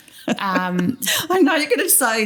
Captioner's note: laughter